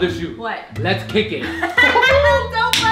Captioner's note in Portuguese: Risadas